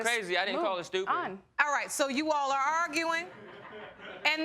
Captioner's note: audience laughing